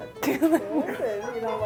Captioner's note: laughs